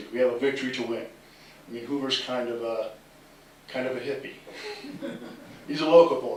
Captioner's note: laughter